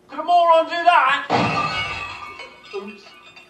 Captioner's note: loud crash